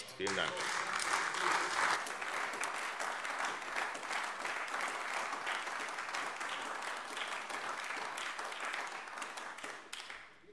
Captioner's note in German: Beifall AfD